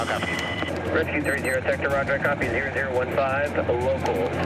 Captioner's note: man On Radio